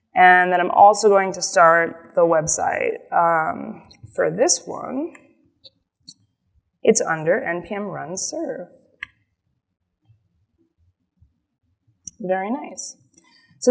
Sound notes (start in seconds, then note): none